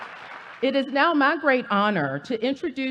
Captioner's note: applause